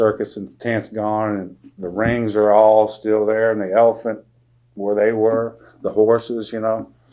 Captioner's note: impressions